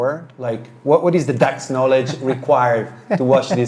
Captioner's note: laughing